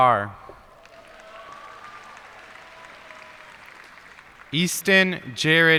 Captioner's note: cheers and applause